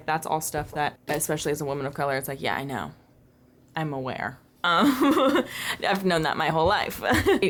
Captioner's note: laughter